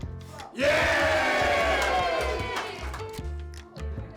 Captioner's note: cheering